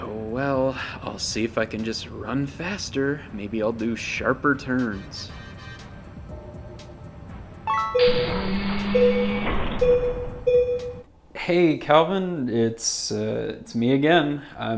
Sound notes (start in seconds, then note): 7.6 beeping alarm